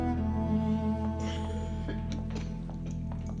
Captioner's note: coughing